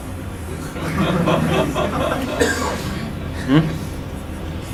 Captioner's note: audience laughs